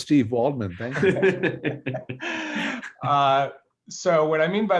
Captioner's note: laughs